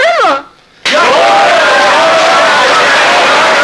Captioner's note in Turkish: Alkışlar, doğru, yaşa, bravo sesleri